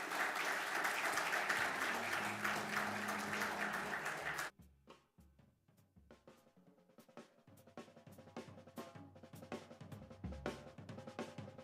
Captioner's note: applause